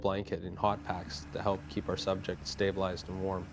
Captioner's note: voiceover